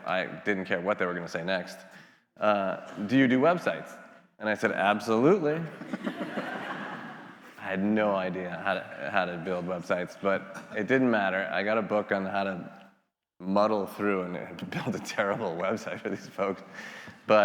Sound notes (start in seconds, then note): 5.6 attendees laughing